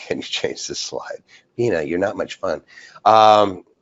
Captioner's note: laughs